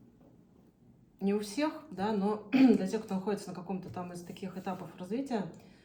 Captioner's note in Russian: откашливается